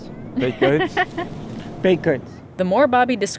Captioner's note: laughter